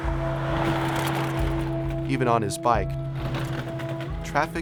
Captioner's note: traffic noise